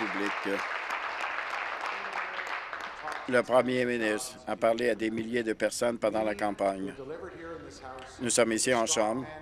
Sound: applause

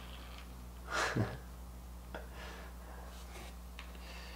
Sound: chuckling

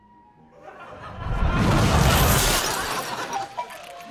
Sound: laugh track

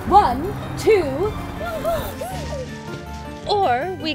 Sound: women groan as they hit the ground

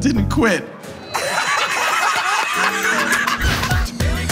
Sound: Jokers laughing

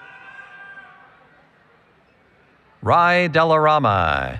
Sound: cheering

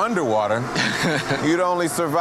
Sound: laughing

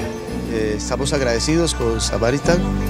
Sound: speaking spanish

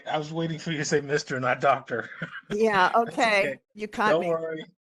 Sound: laughing

